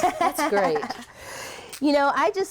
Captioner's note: laughs